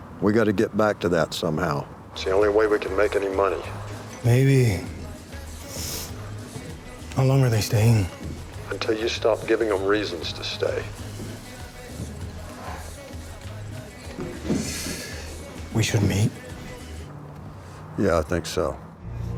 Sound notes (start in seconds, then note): 8.6 on phone; 11.1 latin music